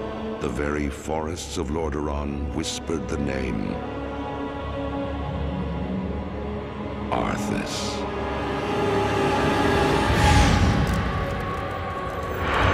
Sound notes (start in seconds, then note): 10.3 ice cracking